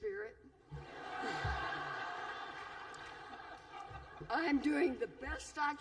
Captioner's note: laughter